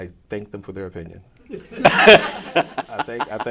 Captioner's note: laughter